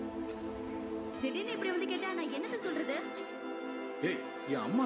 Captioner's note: tamil soap opera playing on TV